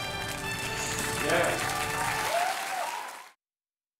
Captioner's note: audience applauding